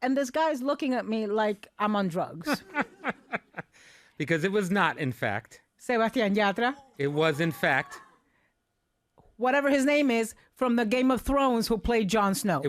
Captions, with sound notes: And this guy is looking at me like Amund drugs. (laughing) Because it was not in fact. (speaking in foreign language) It was in fact. Whatever his name is, from the Game of Thrones who played Jon Snow.